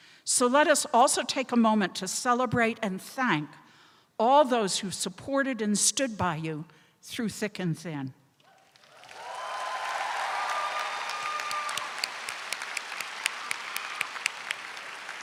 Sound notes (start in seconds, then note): 8.4 crowd clapping; 8.5 crowd cheering